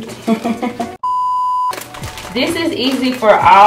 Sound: laughs; beeps

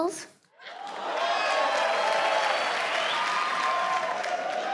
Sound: crowd cheers

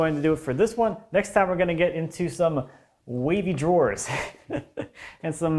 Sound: chuckles

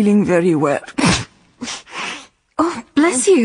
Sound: she sneezes

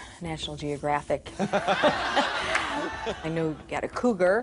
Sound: laughter

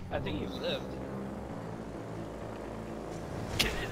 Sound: vroom

